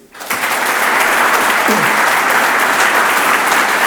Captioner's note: audience applauds